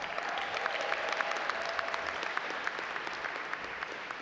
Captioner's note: audience applaud